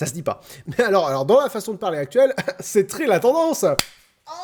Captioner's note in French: clap